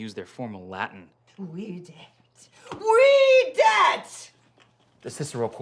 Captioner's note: angrily speaking Latin